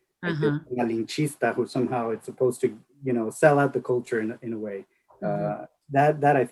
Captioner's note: speaks Spanish